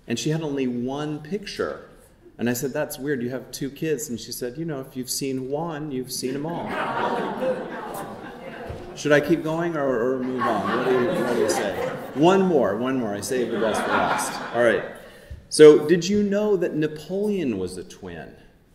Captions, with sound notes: And she had only one picture and I said, "That's weird, you have two kids." And she said, "You know, if you've seen Juan, you've seen Amal." (audience laughing) Should I keep going or move on? What do you say? One more, one more, I saved the best for last. All right, so did you know that Napoleon was a twin?